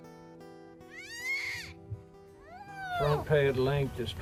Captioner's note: bear moans